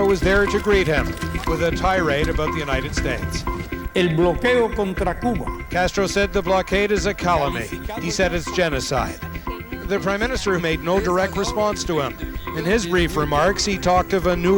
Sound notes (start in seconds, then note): 4.4 speaking in Spanish